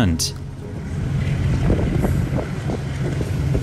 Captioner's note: wind blowing